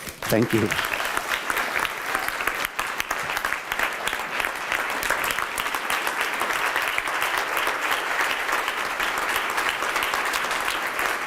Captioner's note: applause